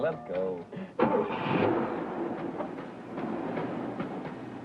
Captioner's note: laughing; engine revving